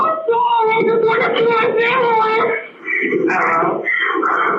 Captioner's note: crying